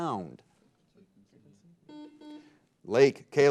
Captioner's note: buzzer beeping